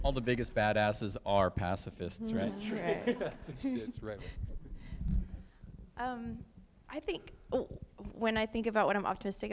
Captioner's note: laughter